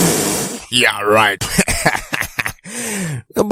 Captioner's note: laughing